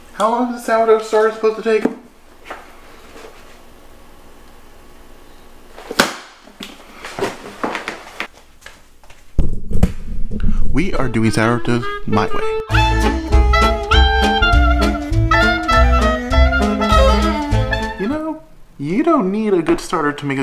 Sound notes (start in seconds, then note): 5.9 book closes